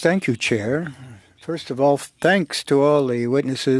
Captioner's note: speaking FRENCH